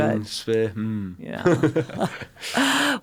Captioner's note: chuckles